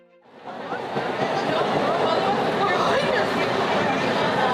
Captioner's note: train chugging